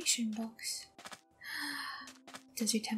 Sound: gasp

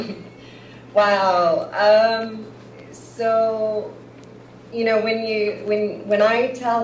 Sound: laughs

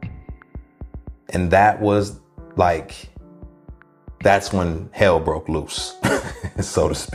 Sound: chuckles

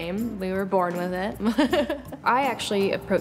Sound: laughs

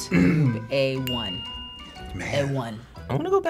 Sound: bell dinging

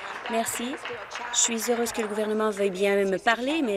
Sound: applause

